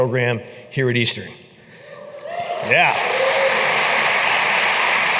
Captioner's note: applause